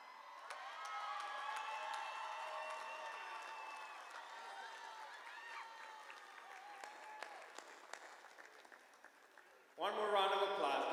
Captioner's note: applause